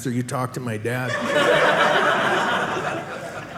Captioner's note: audience laughing